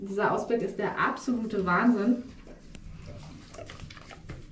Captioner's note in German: Leckgeräusche des Hundes